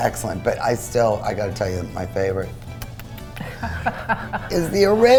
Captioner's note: laughs